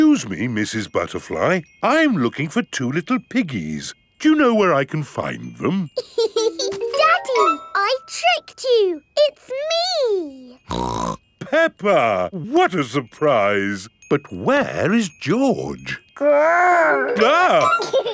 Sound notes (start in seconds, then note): 6.0 laughs; 10.6 snorts; 16.7 giggles; 17.9 exclaims